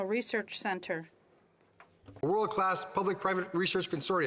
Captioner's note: speaking French